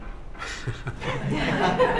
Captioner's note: laughter